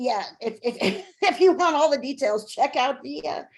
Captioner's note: chuckling